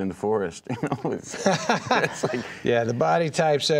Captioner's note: laughing